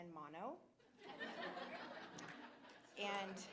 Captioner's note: laughter